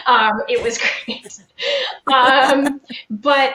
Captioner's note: laughing